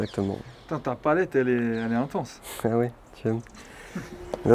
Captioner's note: laughs